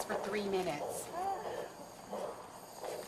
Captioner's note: groaning